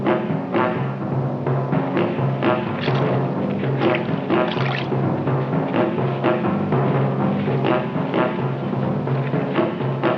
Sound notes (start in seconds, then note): 2.5 puddle splashing